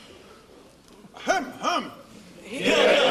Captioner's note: Lord Tolloller harrumphs